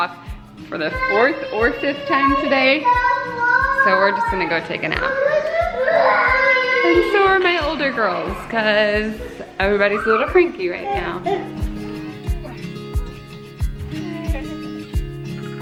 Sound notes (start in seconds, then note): 5.3 kids screaming; 11.6 guitar music